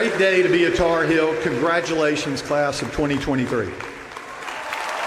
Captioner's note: applause